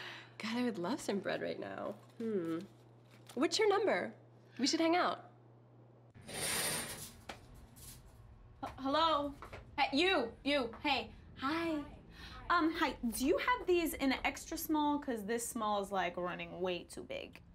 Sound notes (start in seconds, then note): 6.2 curtain slides open